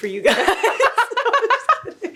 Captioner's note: both laughing